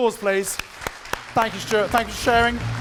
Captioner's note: audience clapping